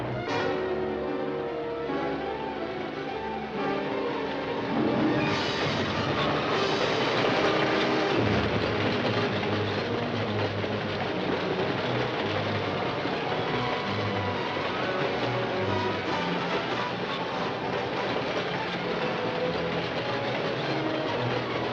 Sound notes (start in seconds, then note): 0.1 dramatic music; 5.3 train roaring